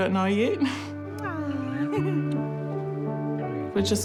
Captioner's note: giggles